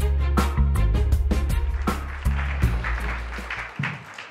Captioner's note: applause